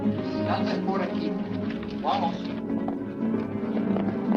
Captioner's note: officer speaks Spanish